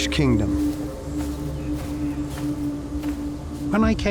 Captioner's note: footsteps crunching